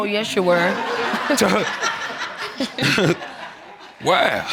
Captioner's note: laughter